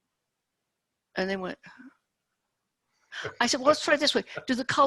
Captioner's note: sighs